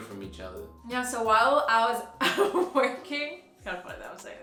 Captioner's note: laughing